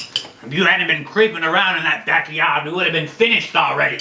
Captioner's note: none